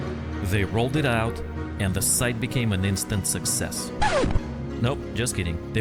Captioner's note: scratch sound effect